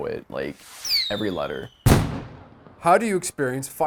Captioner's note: fireworks banging